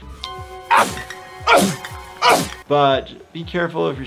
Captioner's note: sneezes